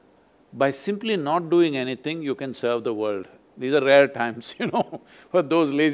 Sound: laughs

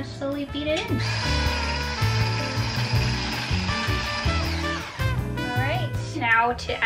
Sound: jazzy music; whirring

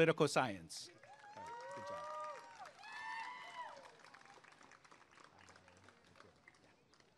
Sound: applause and cheering

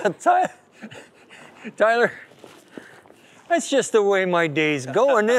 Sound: laughs

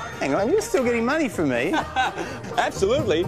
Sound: chuckles

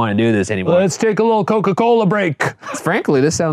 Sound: laughing

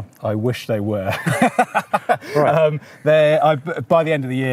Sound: both laughing

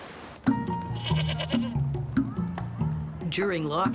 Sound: bleating

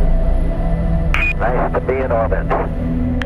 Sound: radio voice 4

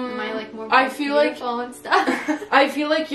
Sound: both laugh

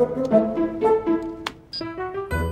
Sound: beeps

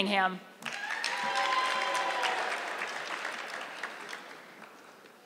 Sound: audience clapping

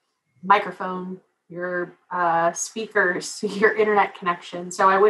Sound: laugh

